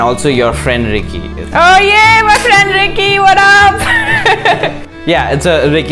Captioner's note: laughs